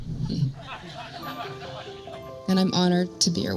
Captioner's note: faint laughter